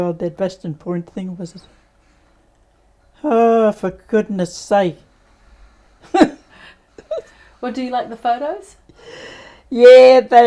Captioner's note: laughs